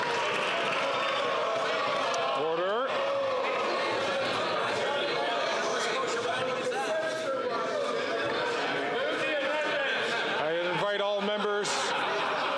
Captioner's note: some Applause